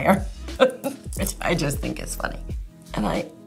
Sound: laughs

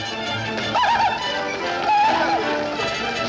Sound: crying out

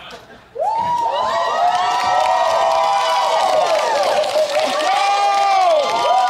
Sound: crowd cheering

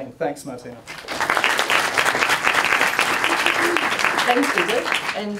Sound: applause

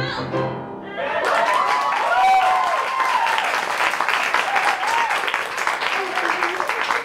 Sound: applause

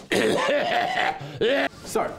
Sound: laughs; coughs

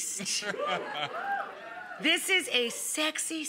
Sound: audience cheers

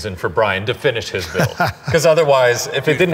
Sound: Ken laughing

